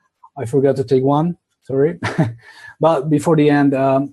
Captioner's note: laughs